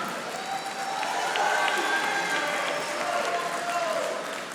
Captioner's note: audience applauding